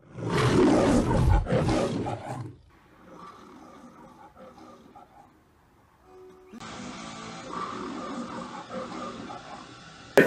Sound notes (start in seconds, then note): 0.0 Leo the Lion roaring; 3.1 Leo the Lion roars amid camera noises; 6.5 Leo the Lion roaring amid camera noises